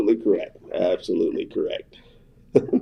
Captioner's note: laughs